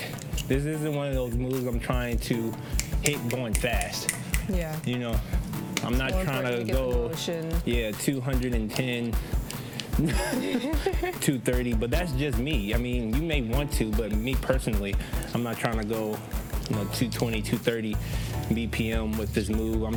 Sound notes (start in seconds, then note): 9.9 both laugh